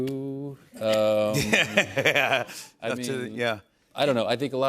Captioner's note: laughs